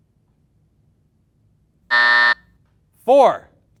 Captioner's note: buzzer buzzing